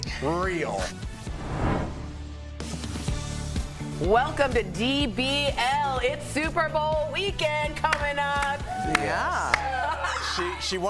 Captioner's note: laughter